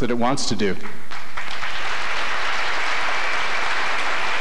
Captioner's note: applause